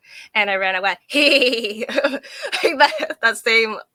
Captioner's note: laughing